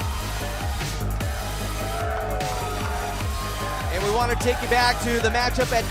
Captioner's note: crowd cheering